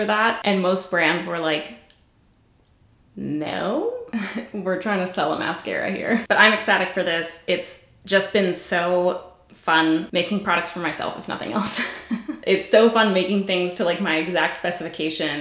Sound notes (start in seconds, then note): 11.7 giggles